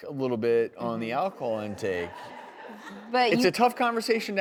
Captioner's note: audience laughs